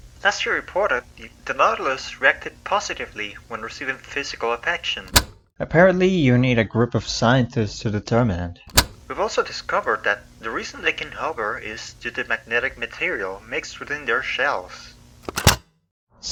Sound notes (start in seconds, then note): 5.0 cassette tape pauses; 8.5 cassette tape plays; 15.1 cassette tape ejects